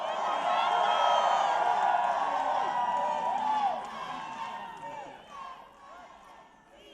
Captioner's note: applause